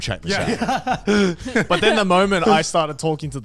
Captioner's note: laughs